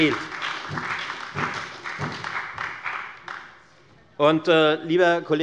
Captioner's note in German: Beifall bei der FDP sowie bei Abgeordneten der SPD und der LINKEN